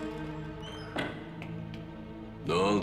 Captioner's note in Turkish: Kapı kapanma sesi